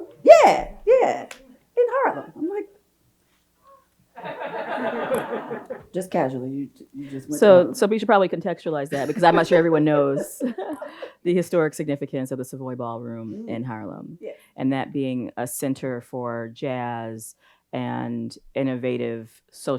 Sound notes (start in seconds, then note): 4.2 audience laughs; 10.4 both chuckles